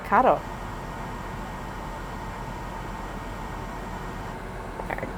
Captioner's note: air conditioner whirring